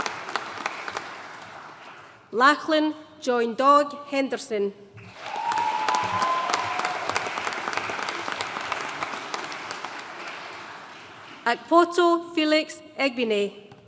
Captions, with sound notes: Lachlan John Doig Henderson. (AUDIENCE CHEERING AND APPLAUDING) Akpotu Felix Egbine.